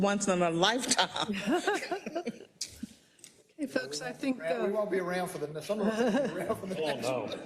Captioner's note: laugh; laugh